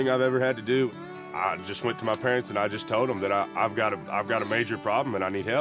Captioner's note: none